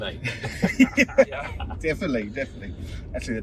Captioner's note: group laughs